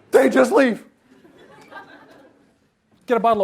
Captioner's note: audience laughs